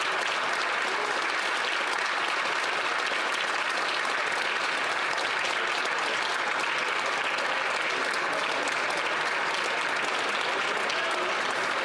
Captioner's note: some Applause